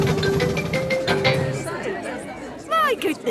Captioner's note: all murmuring